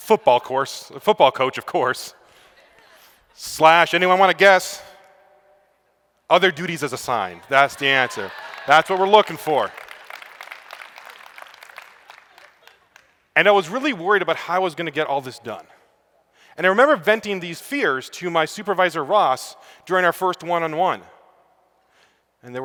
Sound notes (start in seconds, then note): 9.7 applause